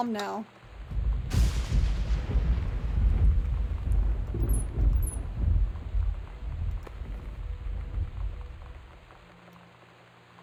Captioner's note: thunder